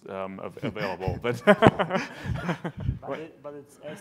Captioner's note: laughing